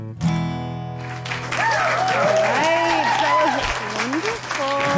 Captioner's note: audience applauds